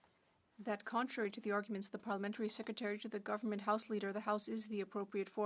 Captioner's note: speaking French